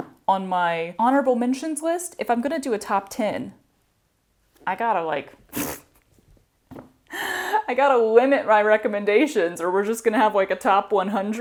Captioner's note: mouth fart